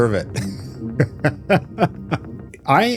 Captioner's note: laughs